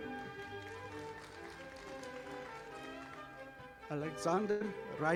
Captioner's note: audience applauding